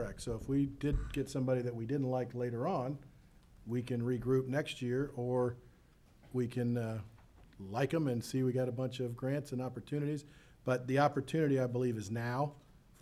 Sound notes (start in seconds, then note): none